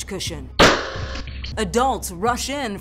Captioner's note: gun shot banging